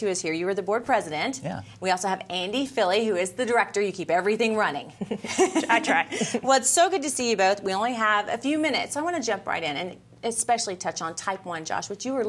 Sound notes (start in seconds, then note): 5.0 chuckling